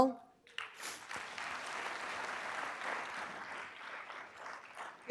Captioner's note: applause